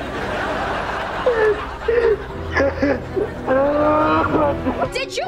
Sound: crying

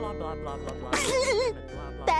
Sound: laughing

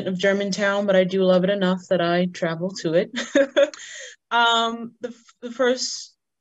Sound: laughs loudly

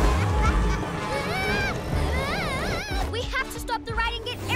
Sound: screaming

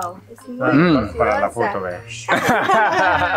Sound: speaking in foreign language; all laughing

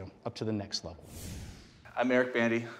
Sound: whoosh

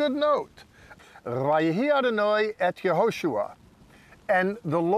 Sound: speaking in Hebrew

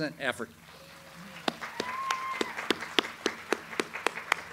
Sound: audience applauds

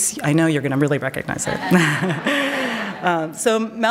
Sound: laughs

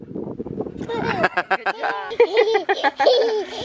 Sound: laughing

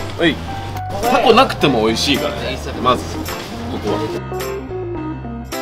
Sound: speaking in a foreign language; upbeat music

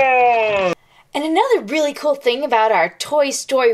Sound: voiceover

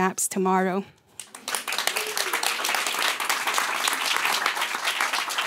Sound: applause

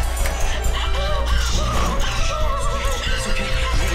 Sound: wailing

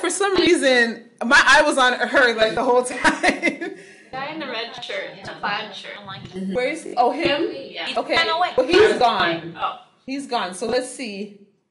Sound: laughing

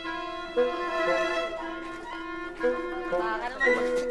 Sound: indistinct chatter

